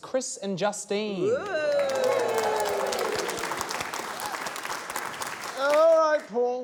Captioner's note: cheering, applause